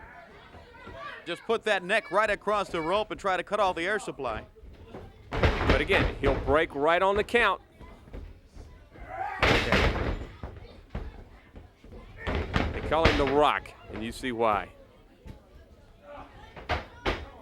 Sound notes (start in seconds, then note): 0.1 crowd chatter; 10.2 crowd chatter